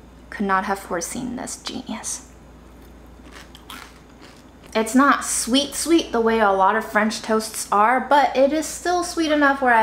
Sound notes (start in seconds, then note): 2.6 food crunching